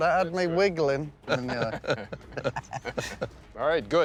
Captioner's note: light chuckling